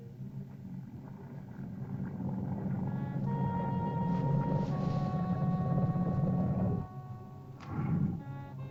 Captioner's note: ominous music; lizard grumbles; ominous music